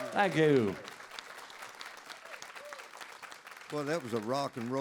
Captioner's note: audience applauds